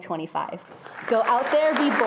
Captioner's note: attendees applauding